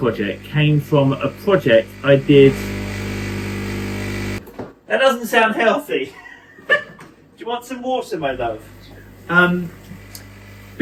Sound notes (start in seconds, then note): 4.6 coffee machine whirring; 6.0 laughs